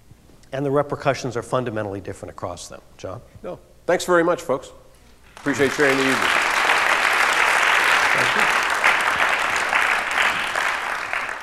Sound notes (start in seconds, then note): 5.3 applause